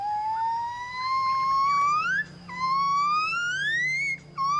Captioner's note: gibbon vocalizing